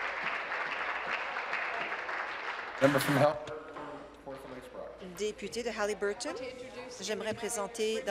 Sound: applause

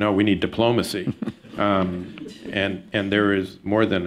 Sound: laughter

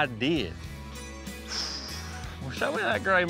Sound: exhaling deeply

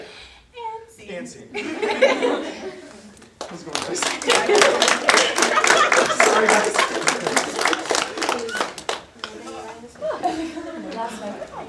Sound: audience applause

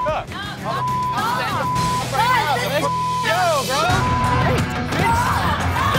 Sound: all arguing and yelling; rock music; beep

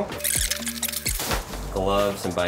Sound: video squelches

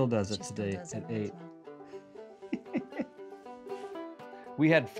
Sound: laughing

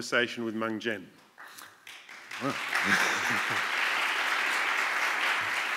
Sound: applause

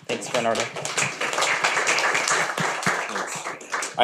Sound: audience clapping

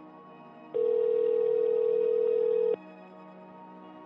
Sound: phone rings

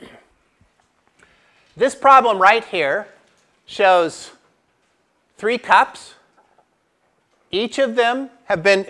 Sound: cough

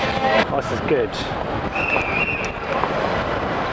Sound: whistle blows

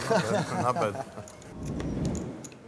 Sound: everyone chuckles; whoosh

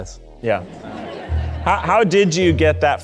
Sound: audience laughing

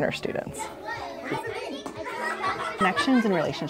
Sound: students chattering

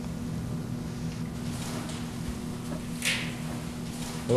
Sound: creaking

